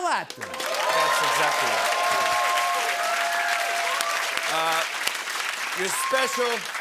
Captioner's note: cheers and applause